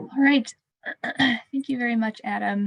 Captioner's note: clears throat